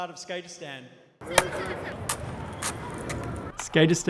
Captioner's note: skateboard rolling